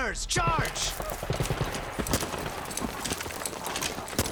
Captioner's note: gunshots